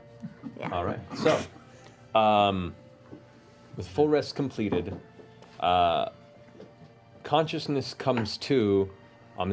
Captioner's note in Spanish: golpes